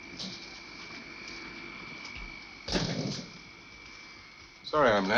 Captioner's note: machine whirring